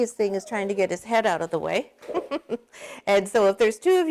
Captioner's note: laughs